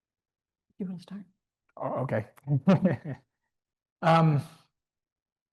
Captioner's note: chuckles